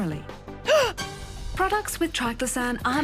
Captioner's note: gasps